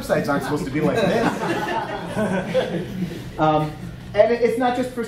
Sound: audience laughing

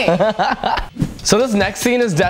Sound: laughs

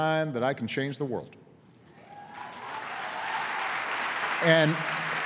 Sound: applause

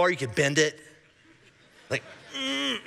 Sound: congregation laughing

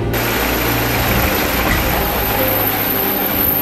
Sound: engine hisses

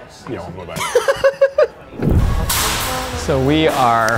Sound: laughs

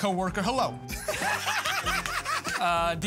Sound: laughing

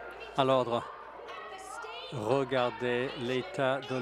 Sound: crowd Noise

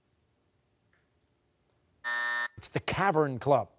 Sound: buzzer

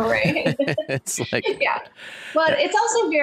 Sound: laugh

